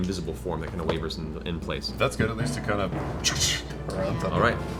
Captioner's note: electricity noise